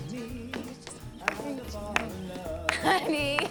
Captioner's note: clapping